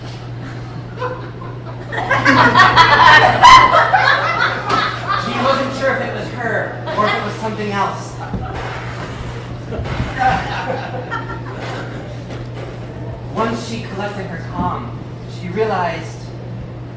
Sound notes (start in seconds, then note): 8.3 fart noises